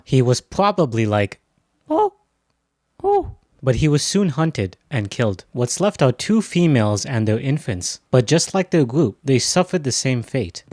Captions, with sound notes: He was probably like, *leaving chimp noise* but he was soon hunted and killed. What's left are two females and their infants. but just like their group they suffered the same fate.